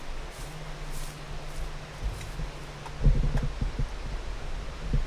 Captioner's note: footsteps crunching grass